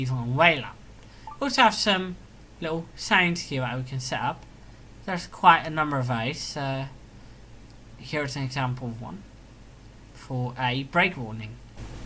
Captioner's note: example of break warning sound